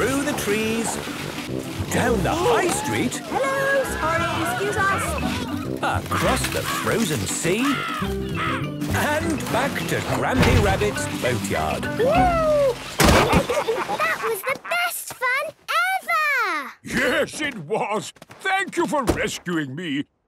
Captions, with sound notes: - Through the trees... Down the high street... - Hello! Sorry! Excuse us! - Across the frozen sea... - (birds cawing) - And back to Grampy Rabbit's boatyard. - Wooo! (bangs) Ha, ha, ha! - That was the best fun ever! - Yes! It was! Thank you for rescuing me!